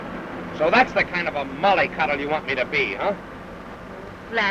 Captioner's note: car screeching